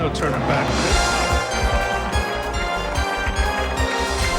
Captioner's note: cheers and applause